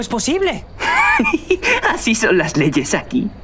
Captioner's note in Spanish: ríe